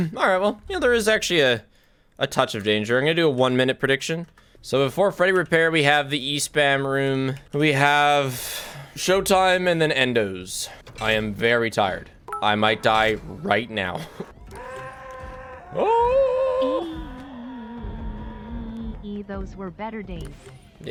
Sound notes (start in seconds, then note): 14.4 screams quietly; 14.4 Monty screams in-game